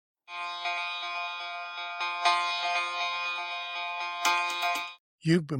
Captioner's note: alarm